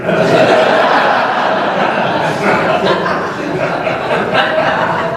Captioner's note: laughter